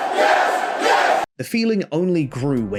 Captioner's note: yes chants